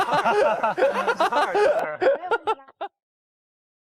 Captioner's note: hahaha